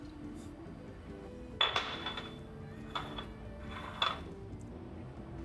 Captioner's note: glass clinking